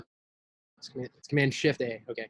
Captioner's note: laughs